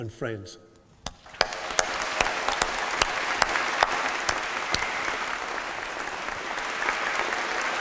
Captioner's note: applause